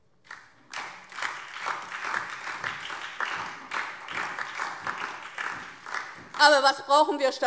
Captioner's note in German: Beifall DIE LINKE und SPD